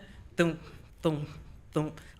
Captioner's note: humming